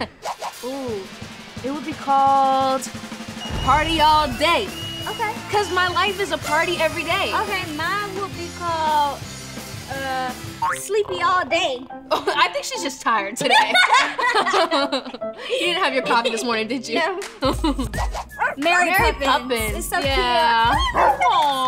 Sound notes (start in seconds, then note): 13.4 laughing; 17.4 laughing